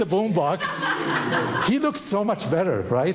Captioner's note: audience laughing